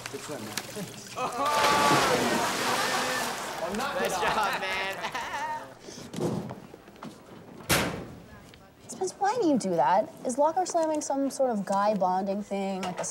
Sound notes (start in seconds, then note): 1.1 students laugh; 7.6 locker slams